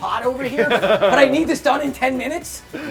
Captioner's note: laughter